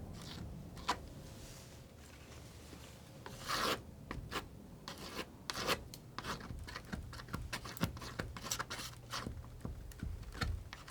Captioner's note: scratching